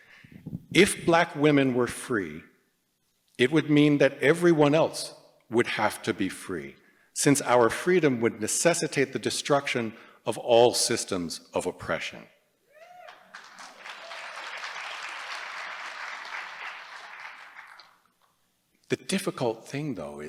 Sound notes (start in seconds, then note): 13.0 applause